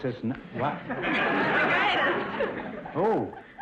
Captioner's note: audience laughter